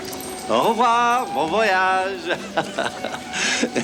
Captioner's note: chuckles